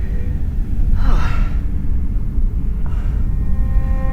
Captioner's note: sighs